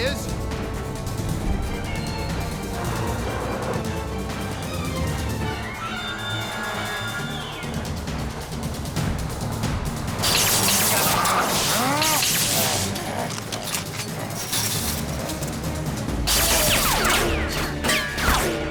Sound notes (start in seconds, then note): 9.6 electricity crackles; 10.2 growling; 16.2 gunfire